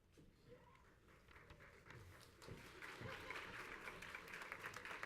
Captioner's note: crowd applauds and laughs